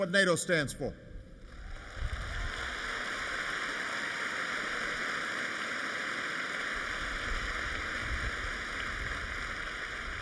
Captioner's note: applause